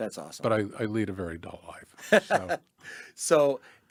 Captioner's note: laughs